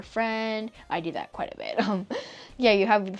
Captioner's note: laughing